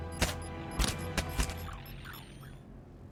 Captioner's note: smoke grenade beeping